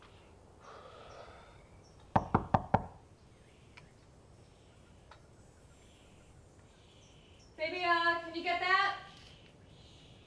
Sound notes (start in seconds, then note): 0.7 sighs; 2.1 knocking